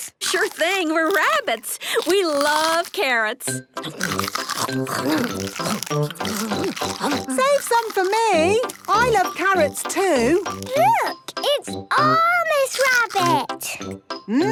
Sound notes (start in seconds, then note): 3.8 crunch